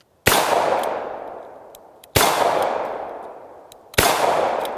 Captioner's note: gun fires